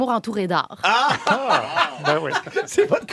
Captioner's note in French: rire